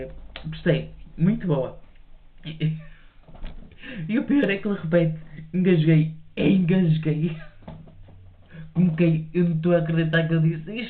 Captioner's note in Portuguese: limpando a garganta